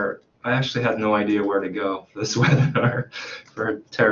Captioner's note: laughs